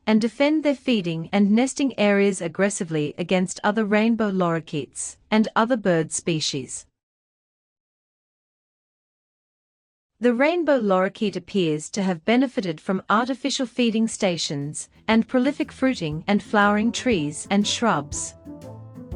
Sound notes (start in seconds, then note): none